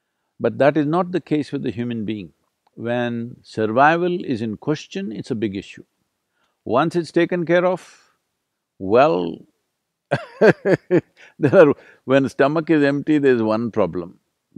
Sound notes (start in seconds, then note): 10.1 laughs